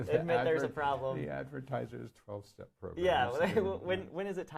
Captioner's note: laughs